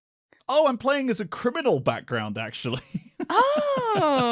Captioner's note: laughs